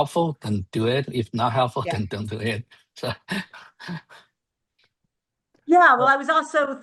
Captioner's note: laughs